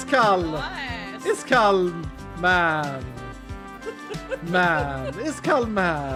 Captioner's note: giggling